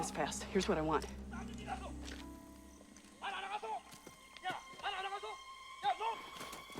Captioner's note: man Yelling In Korean